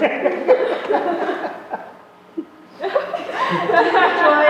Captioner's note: laughter